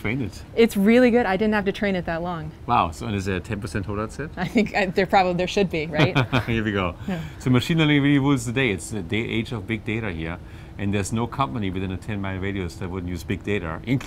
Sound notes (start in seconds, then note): 5.9 laugh